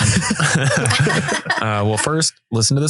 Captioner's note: everyone laughing